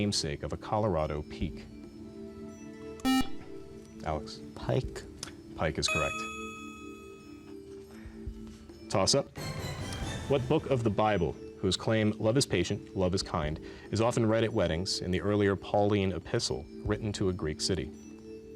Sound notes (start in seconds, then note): 3.0 buzzer